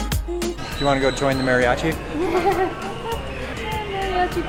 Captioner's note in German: Lacht